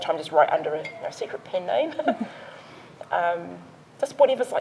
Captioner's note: laughs